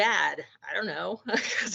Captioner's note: laughing